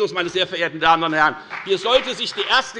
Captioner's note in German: Beifall bei der FDP